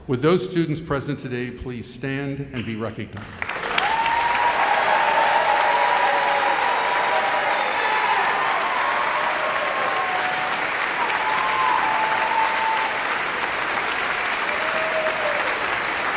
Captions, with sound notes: Would those students present today, please stand and be recognized? (audience cheering and applauding)